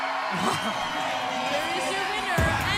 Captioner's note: bell ringing